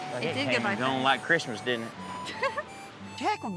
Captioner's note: giggles